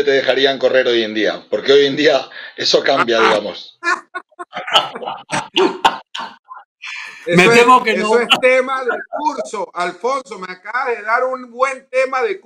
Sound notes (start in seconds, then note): 4.5 laughs